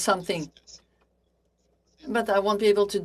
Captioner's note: speaking French